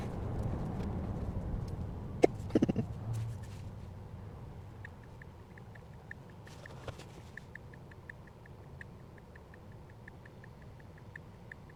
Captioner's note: click click click click